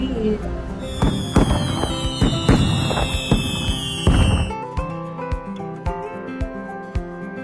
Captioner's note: fireworks